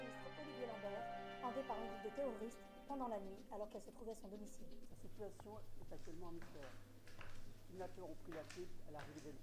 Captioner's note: TV News in the background